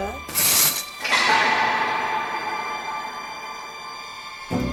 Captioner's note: gate squeaking